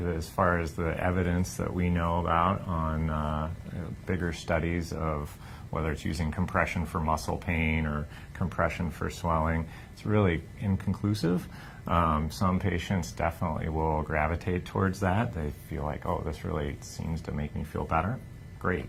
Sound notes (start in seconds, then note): none